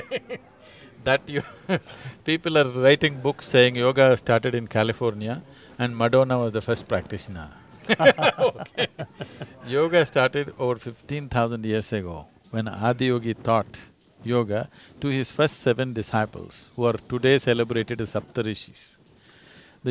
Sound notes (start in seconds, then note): 0.0 laughs; 7.8 both laugh